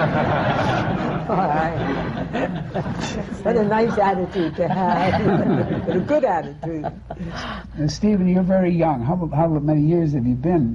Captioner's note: laughter